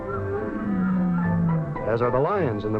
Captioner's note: lion roaring